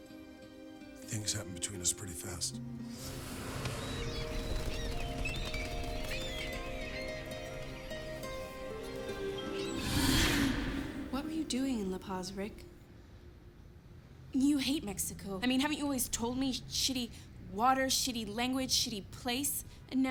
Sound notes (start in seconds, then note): 3.6 birds cawing; 8.5 gentle music